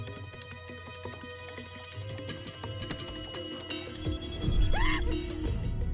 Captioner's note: ringing continues